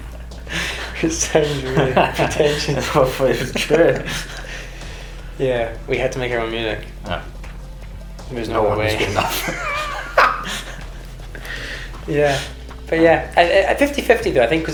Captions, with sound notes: - We sound really pretentious. (both laugh) - It's true! - Yeah. We had to make our own music. - Because no one else was good enough. (both laugh) - But yeah, at 50/50 though, I think